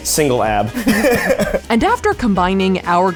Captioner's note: laughs